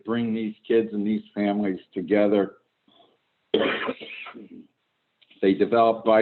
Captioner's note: clears throat